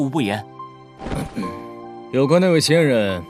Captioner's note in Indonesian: Batuk